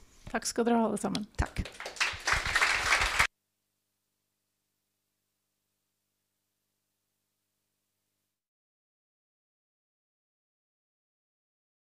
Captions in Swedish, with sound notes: -Tack ska ni ha allesammans. -Tack. [applåder] Undertextning.nu